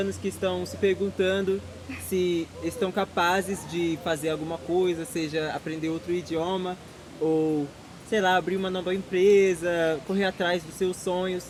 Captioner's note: speaking Portuguese